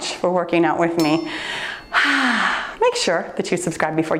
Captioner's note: sighs